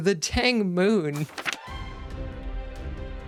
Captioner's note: page turn